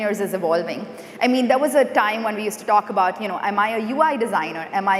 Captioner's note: none